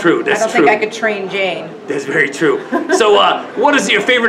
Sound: laughs

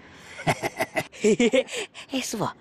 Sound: laughing

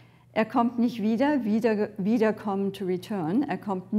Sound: woman speaks in foreign language

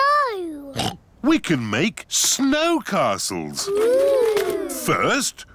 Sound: oinks

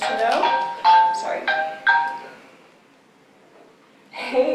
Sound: phone Ringing

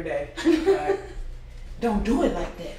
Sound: laughs

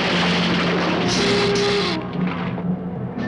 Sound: hissing; suspenseful orchestral music

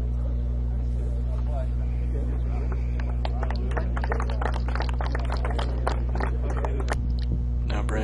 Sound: clapping

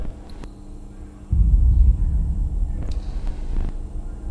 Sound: neon humming

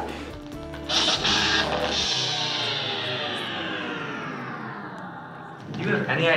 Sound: power down sound

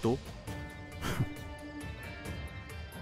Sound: Keshav laughs

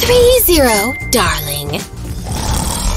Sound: snoring loudly

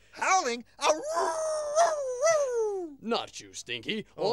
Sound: howling

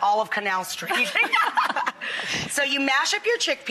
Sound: laughs

